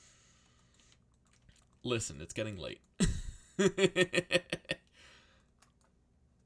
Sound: laughs

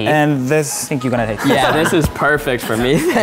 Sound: laughs

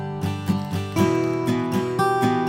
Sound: paper crumble

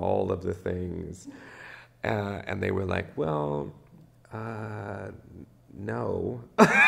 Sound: laughs

